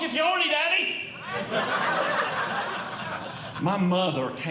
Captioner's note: audience Laughing